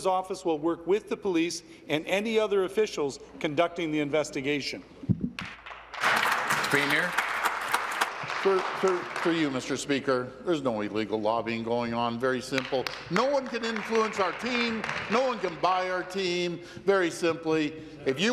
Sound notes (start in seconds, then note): 8.3 applause